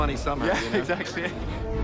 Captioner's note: chuckles